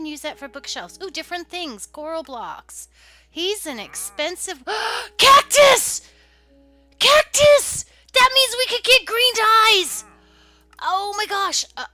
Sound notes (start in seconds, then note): 2.9 gasp